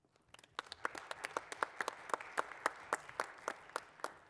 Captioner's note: applause